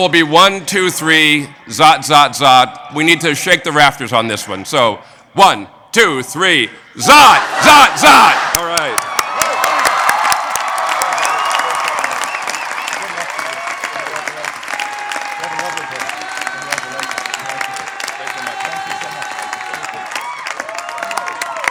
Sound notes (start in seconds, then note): 8.5 applause